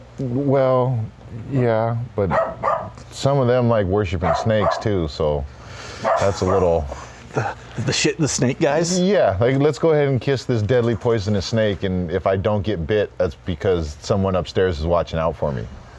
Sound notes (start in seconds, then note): 6.1 chuckles